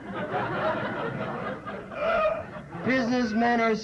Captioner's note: laughter